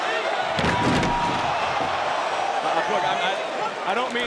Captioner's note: table clattering